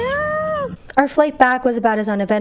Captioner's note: hoots